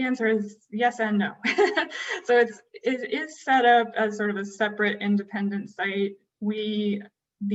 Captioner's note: laughter